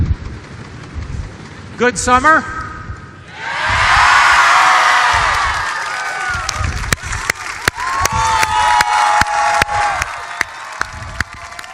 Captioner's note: cheers and applause